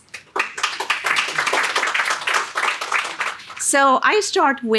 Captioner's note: audience clapping